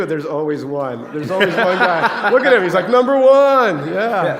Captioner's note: laughter